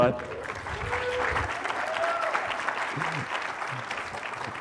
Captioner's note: applause